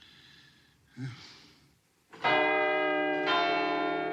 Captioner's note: bell chimes